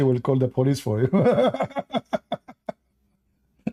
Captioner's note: Ketawa